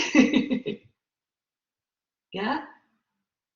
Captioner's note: laughs